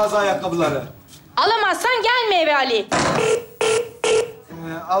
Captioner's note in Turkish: Telefon kapanır